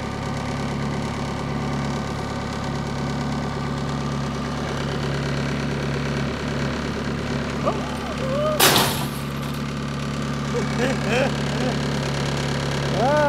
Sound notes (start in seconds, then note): 8.6 crash; 10.4 laughs